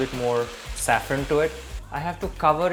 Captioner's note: sizzle sound